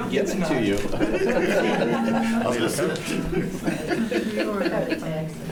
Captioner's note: laughs